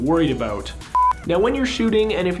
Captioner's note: beeping